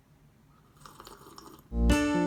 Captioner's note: slurps tea